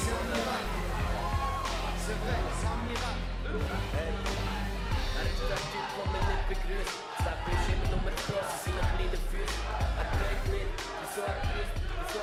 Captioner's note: crowd cheering